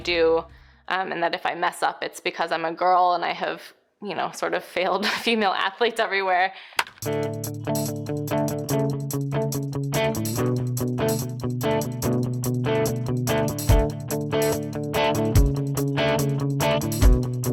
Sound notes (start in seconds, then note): 6.8 bat cracks; 7.0 bright upbeat music